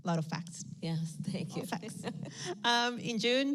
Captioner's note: laughs